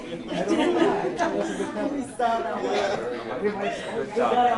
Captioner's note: laughter